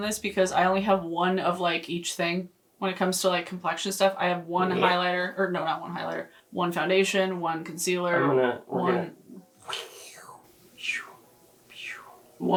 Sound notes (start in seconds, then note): 10.8 imitating whooshing